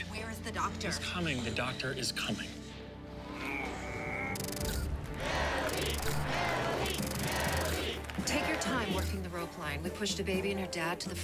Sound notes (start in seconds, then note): 3.2 grunting; 4.0 <i> camera shutter clicking</i>; 5.1 crowd chanting "mellie!"